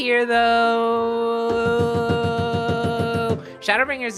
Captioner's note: pounding fist on desk emphatically